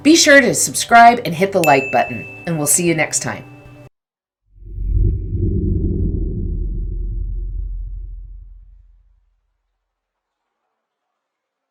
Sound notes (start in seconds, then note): 1.6 banner dinging